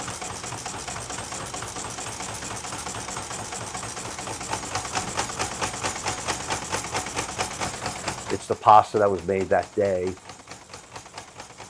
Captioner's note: blade chopping